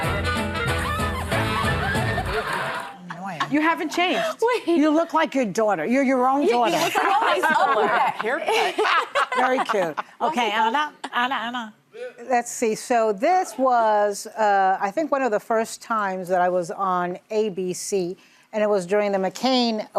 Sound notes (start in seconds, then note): 0.0 upbeat music; 6.6 laughing